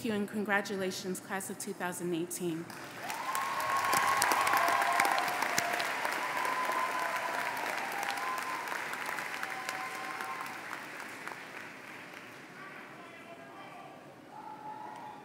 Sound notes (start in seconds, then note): 2.6 applause